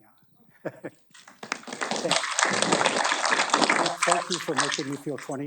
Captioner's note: audience applauding